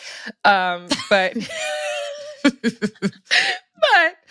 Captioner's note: laughter